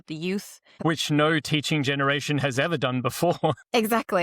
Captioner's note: chuckles